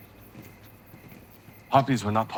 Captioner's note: footsteps padding